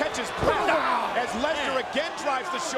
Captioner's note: Kurt groans